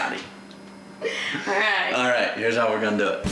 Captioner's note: laughing